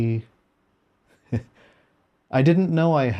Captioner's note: chuckle